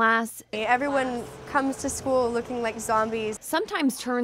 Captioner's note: alarm sound